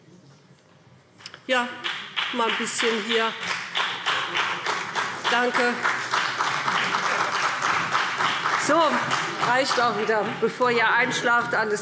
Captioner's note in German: Beifall BÜNDNIS 90/DIE GRÜNEN und vereinzelt CDU